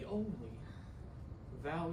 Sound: small gasp

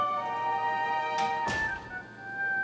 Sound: door closes

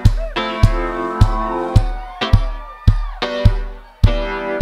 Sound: audience cheers

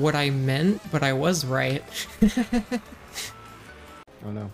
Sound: soft laugh

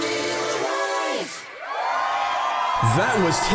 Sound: cheering

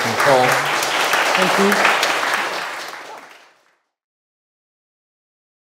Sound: crowd applauding

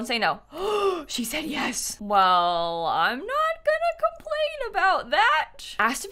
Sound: gasps

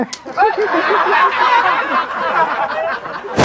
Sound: everyone is laughing

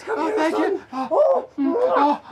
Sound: both grunt

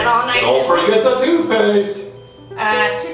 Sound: voiceover

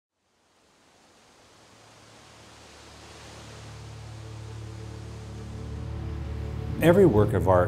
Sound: nature sounds, wind

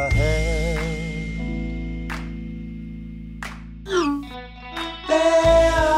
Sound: hands clap

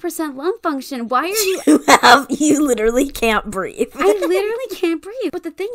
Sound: laughs

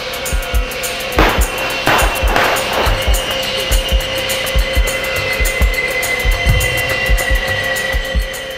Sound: sound of shooting

